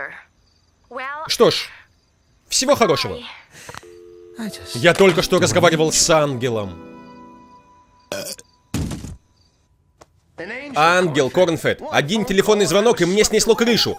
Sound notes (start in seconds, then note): 3.8 dial tone; 8.0 burps; 13.5 Fluffy and Uranus giggling